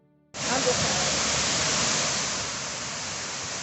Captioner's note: water rushing